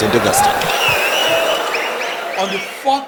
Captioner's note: wild applause and cheering for 22 seconds